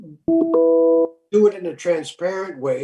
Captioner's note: notification sound